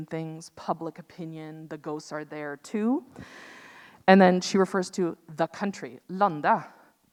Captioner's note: speaks in Norwegian